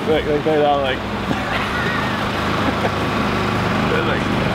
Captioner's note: water whooshing